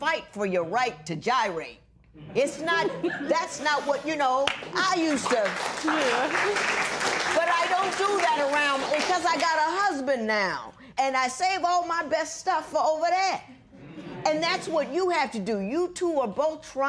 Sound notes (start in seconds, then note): 8.4 applause